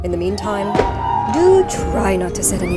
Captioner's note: guests cheer